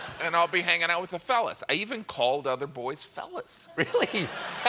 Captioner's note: laughter